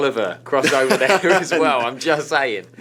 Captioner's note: laughs